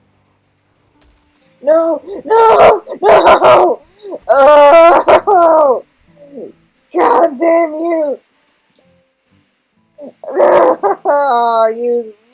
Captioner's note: incoherent cries of agony